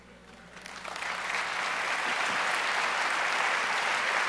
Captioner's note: audience applauds